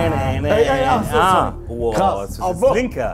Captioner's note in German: Stimmengewirr